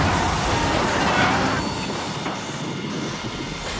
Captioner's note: metals slam; suspenseful music